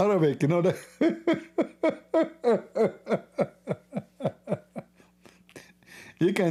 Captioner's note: Ketawa